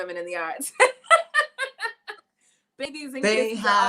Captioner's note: laughing